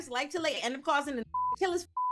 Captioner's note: beep